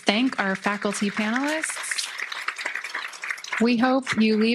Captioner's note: applause